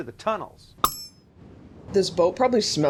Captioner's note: ting